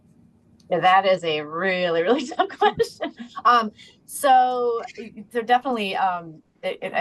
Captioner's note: laughs